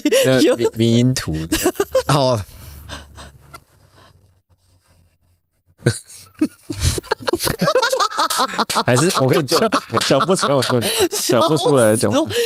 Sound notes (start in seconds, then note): 2.2 laughing